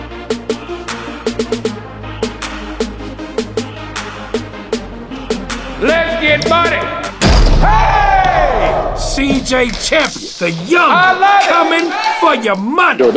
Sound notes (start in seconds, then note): 7.2 dunk sound; 7.6 cheers